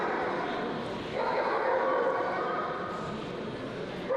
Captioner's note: woof woof; bark bark